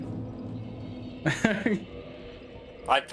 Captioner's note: laughs